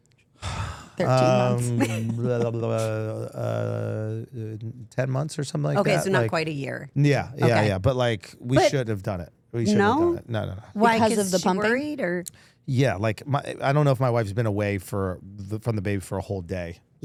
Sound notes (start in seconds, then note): 2.2 Andrew mumbling